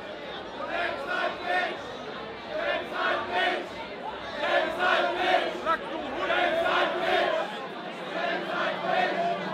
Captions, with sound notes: (crowd chanting) - [Crowd] Excitement! Excitement! Excitement! Excitement!